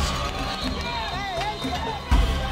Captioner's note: cheer